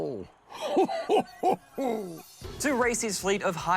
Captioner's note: laughs